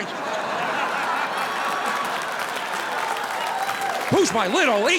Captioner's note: audience applauding